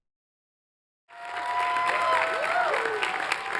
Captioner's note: applause